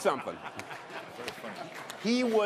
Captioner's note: laughter